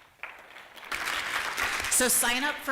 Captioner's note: applause